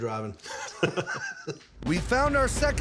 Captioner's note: laughter